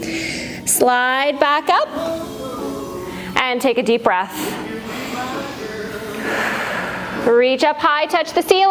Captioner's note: breath